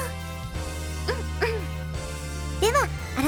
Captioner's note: clears throat